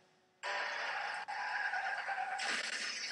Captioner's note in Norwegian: Bil bremser; Bil krasjer